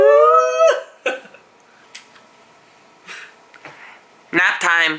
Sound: laughs

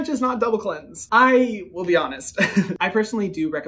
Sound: chuckles

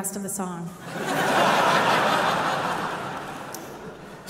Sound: audience laughing

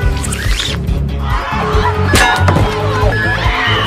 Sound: panicking and rioting

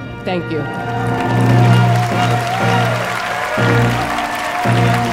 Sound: graduates cheering

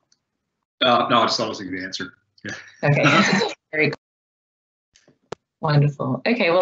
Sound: laughs

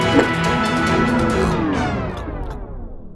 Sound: gulping; music abruptly stops

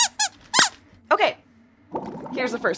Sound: squeaks squeaking

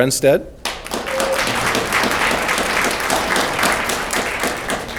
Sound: audience clapping

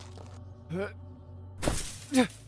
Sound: grunts

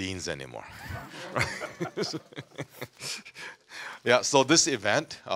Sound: audience laughing

